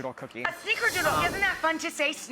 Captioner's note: whoosh